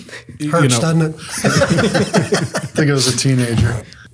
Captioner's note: laughs